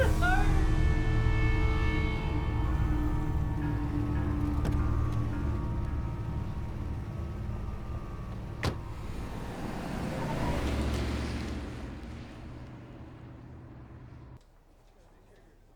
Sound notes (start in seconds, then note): 0.2 eerie music; 8.6 car door thuds; 10.2 car whooshing